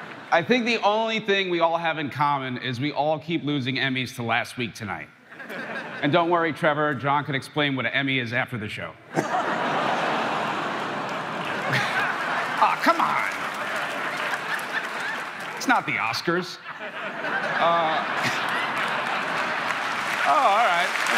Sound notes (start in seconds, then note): 5.3 crowd laughing; 9.1 crowd laughing; 11.6 Pete laughs; 13.1 crowd laughing